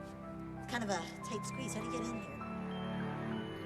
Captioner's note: none